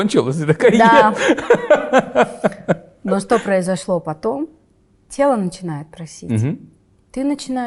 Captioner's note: laughs